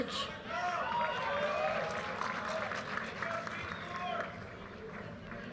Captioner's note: audience cheers and applause